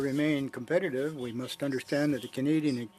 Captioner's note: speaking French